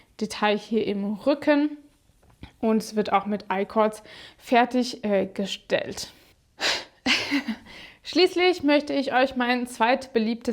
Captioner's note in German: gelächter